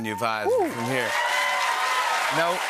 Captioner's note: cheers and applause